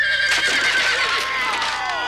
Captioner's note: neigh